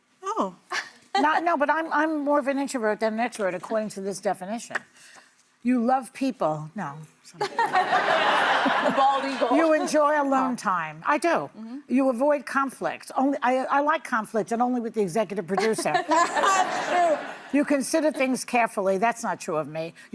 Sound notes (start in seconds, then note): 7.4 laughter